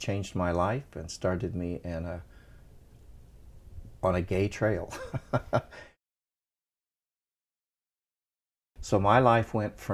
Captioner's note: laughter